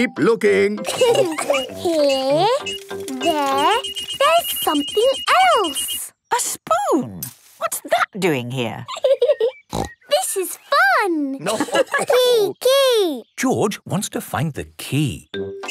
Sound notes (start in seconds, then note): 0.8 laughter; 3.8 beeping; 11.3 giggling and snorting; 11.4 laughter